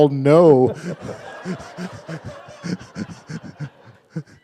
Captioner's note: laughter